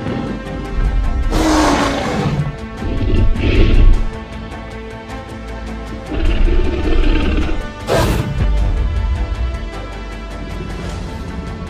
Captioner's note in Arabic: تي ريكس هدير ويدوس